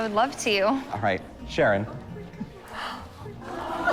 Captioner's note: crowd gasps